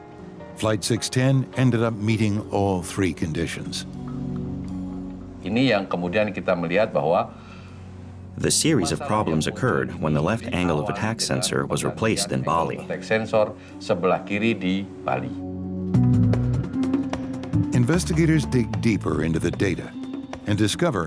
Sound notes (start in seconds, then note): 5.3 non-english speech